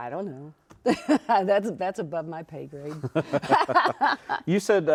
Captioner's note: both laughing